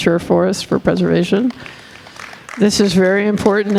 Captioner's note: audience applauding